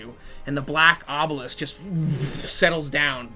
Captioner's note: crushing noise